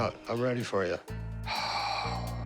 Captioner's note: sighs